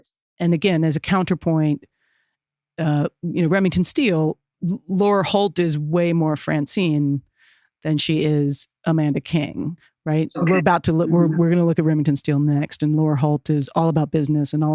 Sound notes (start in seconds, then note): none